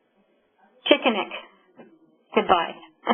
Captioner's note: speaking in Native language